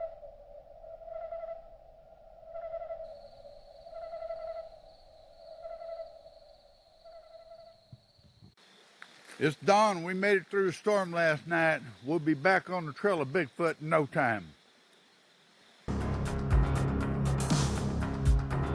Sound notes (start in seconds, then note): 3.1 insects chittering; 15.9 intense music